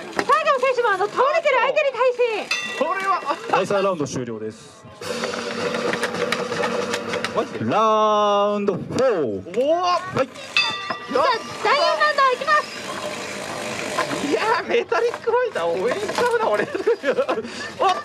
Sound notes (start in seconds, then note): 2.4 bell rings; 10.5 bell rings